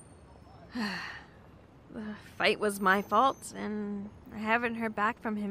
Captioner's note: sighs